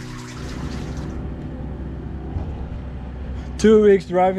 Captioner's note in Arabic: زئير المحرك